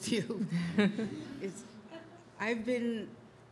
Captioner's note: audience laughs